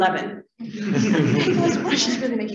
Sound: laughter

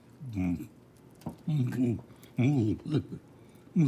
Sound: mumbling

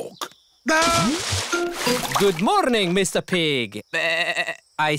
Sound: bleats

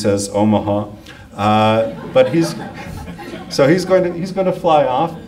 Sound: audience laughs

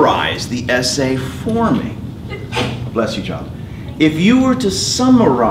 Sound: sneeze

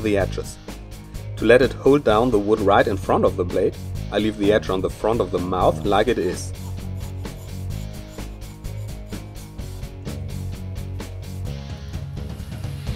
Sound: filing, Grinding

